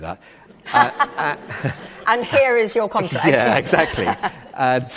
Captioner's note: Laugh from Kate Mosse